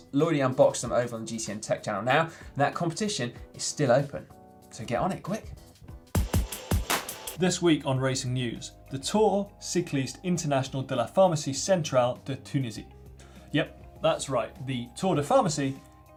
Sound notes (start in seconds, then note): 6.1 techno music; 9.4 speaking foreign language